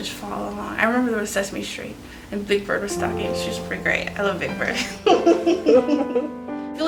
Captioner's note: laughs